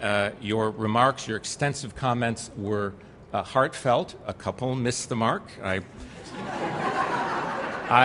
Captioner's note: laughter